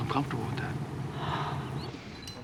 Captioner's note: sighs